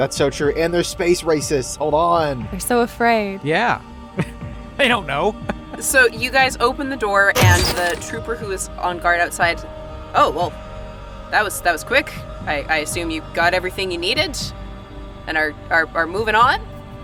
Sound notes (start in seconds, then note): 6.9 door slides open